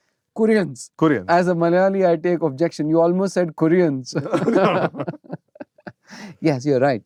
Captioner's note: laughter